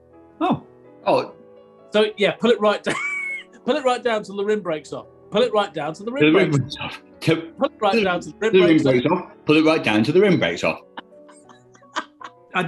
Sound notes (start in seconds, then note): 2.9 laughs; 10.7 quiet cackling